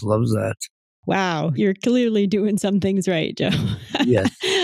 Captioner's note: laughs